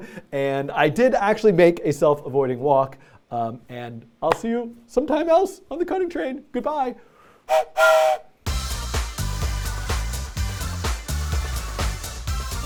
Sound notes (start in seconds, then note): 7.4 train whistle